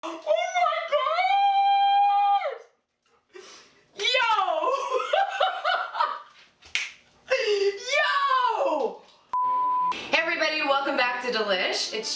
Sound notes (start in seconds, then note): 4.6 laughs; 9.3 beeping